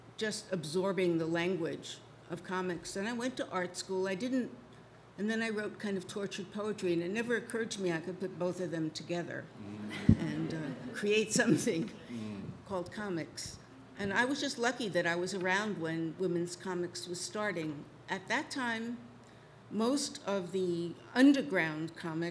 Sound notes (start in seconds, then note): 9.8 audience laughs